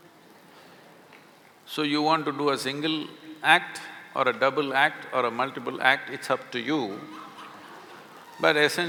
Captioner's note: few laugh